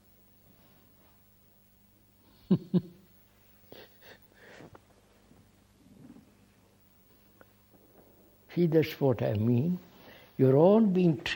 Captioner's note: laughs